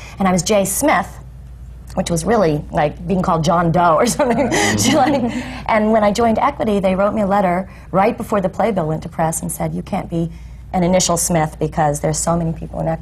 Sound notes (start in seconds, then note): 4.1 laughs